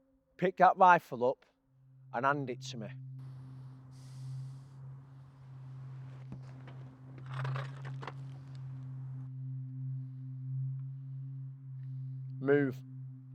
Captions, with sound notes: Pick that rifle up and hand it to me. (rifle drags) Move.